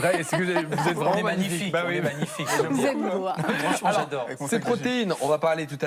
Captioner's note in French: rires